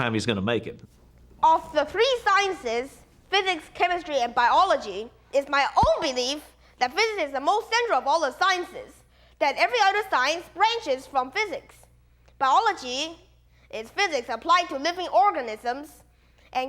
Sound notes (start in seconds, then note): none